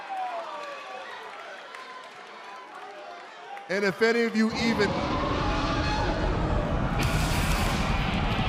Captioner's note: cheers and applause